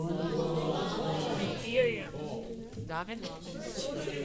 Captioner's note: audience chattering